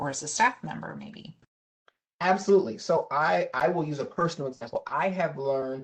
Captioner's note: professor speaking